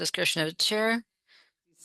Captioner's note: speaking French